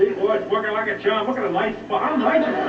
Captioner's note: laughter